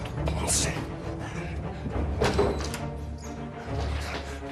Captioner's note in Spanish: sonido al abrir la puerta